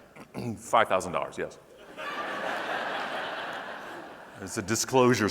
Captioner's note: audience laughing